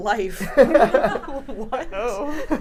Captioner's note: people laughing